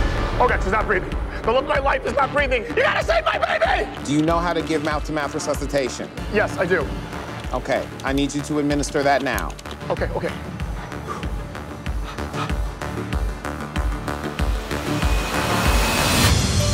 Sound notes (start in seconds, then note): 10.2 man panting; 15.3 suspenseful music